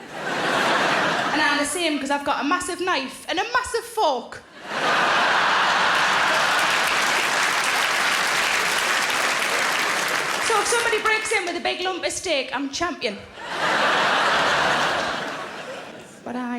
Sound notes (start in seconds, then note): 0.0 audience laughing; 4.5 audience laughing; 4.8 audience applauding; 13.2 audience laughing